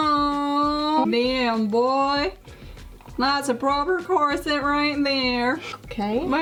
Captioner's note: strange accent